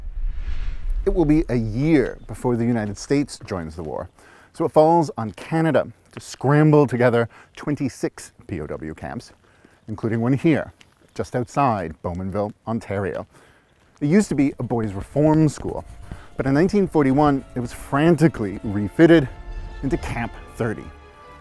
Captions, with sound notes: It will be year before the United States joins the war. So it falls on Canada to scramble together 26 POW camps, including one here just outside Bowmanville, Ontario. It used to be a boys' reform school. (pencil scribbling against paper) But in 1941, it was frantically refitted into Camp 30